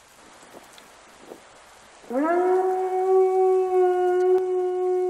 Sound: loud howling

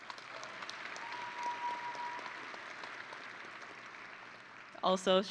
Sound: audience and graduates applauding

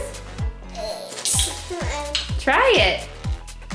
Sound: can opening

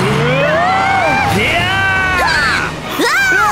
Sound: all shout

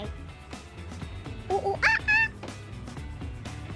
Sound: makes monkey sounds

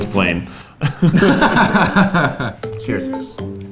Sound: both laugh; happy music

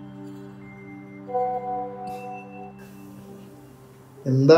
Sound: Whatsapp Message Beep

